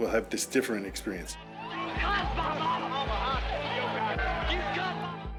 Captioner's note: people shouting